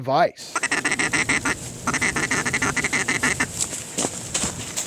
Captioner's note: duck call sounds